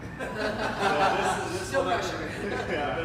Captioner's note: laughing